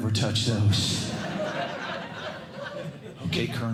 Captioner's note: laughter